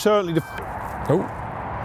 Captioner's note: beep off camera